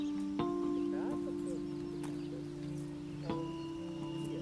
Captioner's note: birds chirping